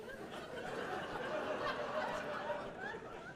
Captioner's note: audience laughing